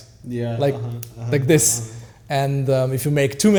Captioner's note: snaps fingers